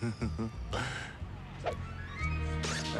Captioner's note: chuckles